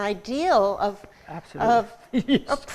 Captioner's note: laughter